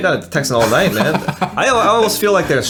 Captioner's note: laughs